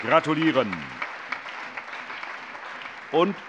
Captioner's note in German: Allgemeiner Beifall